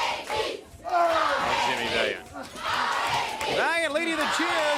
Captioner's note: crowd cheering